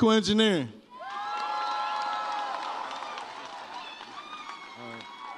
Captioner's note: audience cheers